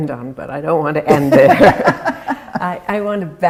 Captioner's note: laughing